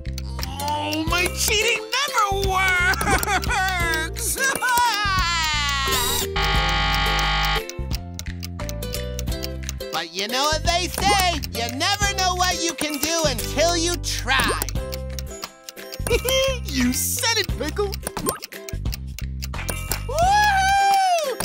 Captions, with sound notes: Oh, my cheating never works. [crying] [buzzing] But you know what they say, you never know what you can do until you try. [laughing] You said it, Pickle. Whoo-hoo!